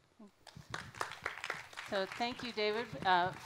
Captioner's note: applause